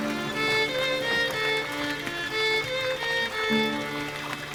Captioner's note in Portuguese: água jorrando e trilha de fundo